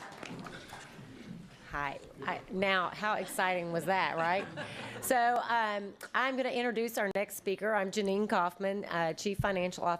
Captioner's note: applause